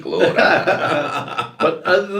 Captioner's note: laughs